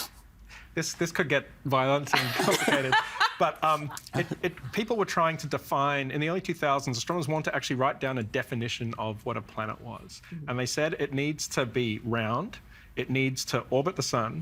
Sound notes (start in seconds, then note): 2.1 laughing